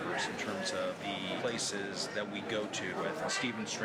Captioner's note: none